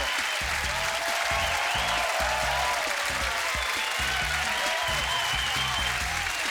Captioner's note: cheers and applause